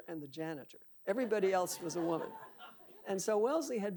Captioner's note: audience laughing